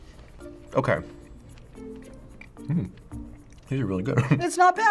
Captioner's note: chuckles